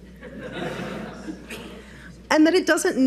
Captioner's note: audience laughs